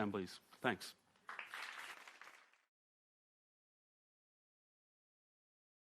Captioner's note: audience clapping